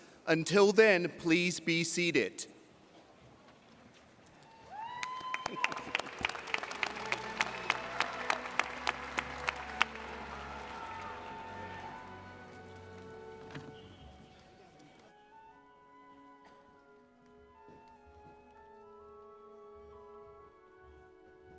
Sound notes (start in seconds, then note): 4.5 audience applauding; 9.3 pleasant orchestral music